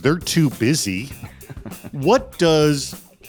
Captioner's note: laughing